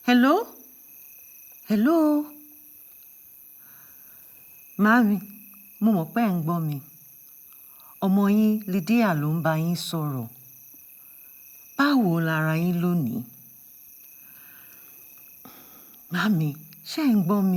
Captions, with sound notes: - Hello? Hello. (speaking in Yoruba)